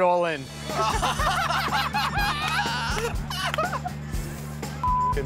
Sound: laughter

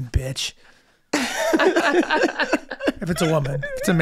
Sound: Rob and Megan laughing

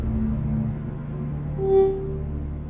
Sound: Blow.aiff

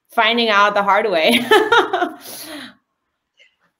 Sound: laughter

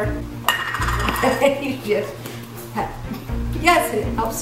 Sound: laughing

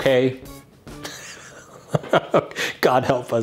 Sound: laughing

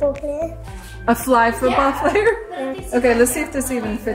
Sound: laughs

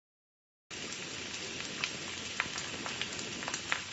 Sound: sizzling

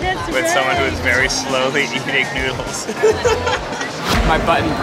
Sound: laughs

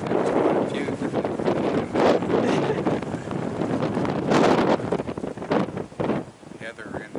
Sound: laughs

